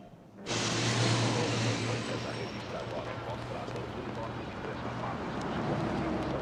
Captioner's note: radio chatter